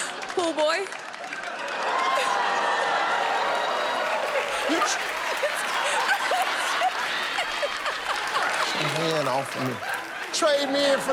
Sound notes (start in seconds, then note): 1.6 audience groans; 4.2 laughter